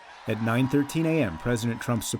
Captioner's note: cheering and applause